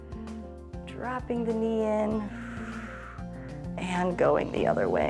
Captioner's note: exhales